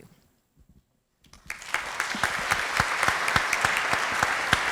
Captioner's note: applause